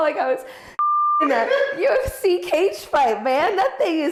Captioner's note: audio beeps